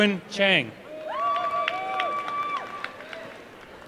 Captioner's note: applause